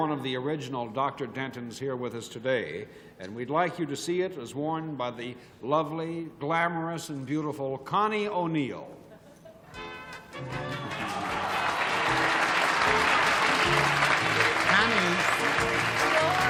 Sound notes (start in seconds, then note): 9.8 theme music; 12.5 applause